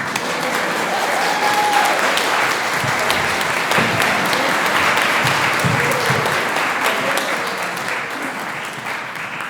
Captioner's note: applause